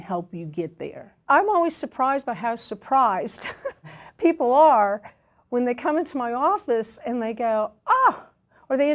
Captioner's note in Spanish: risas